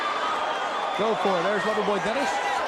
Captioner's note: crowd cheering